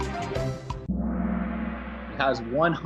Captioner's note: gong